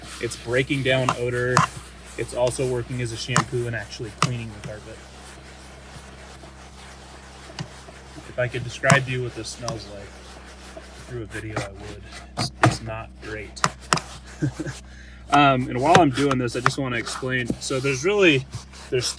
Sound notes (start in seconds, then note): 5.8 brush scrabbing; 14.3 laughs